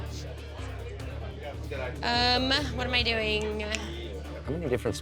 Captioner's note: snaps fingers